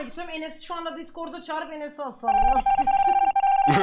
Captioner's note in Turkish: gülerek